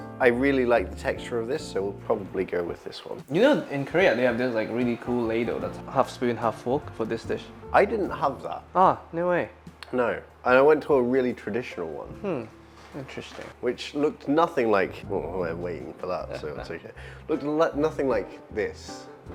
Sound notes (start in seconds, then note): none